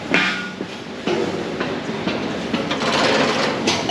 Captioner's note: feet clacks